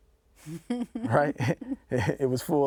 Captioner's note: laughing